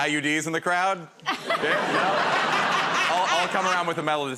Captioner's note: laughter